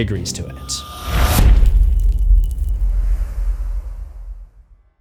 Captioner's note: impact